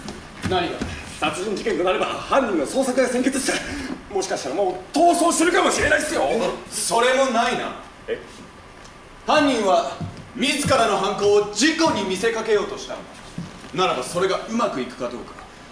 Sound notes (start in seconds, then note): none